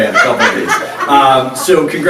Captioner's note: laughs